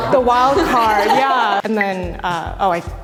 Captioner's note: all laugh